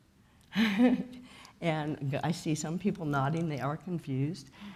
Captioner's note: chuckles